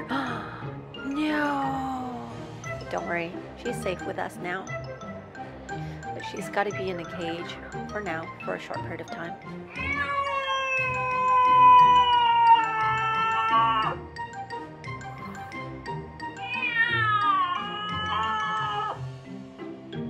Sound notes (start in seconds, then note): 0.0 gasps; 9.6 cat yowling; 16.3 weird meowing